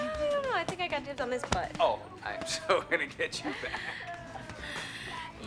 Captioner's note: laughs